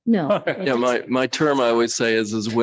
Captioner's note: light laughter